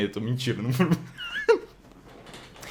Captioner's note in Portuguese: risos